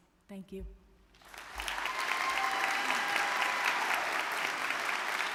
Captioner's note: audience clapping